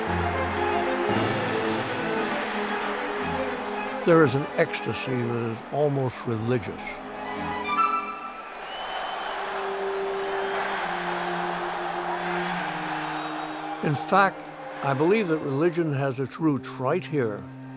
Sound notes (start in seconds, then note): 0.0 cheering; 8.1 cheering